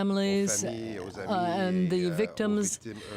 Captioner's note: speaking french